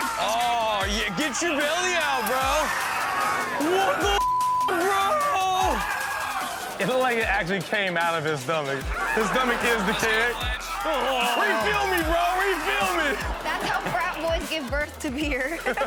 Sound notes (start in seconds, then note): 4.0 beep; 4.6 man screams; 15.2 laughs